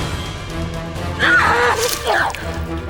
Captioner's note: screams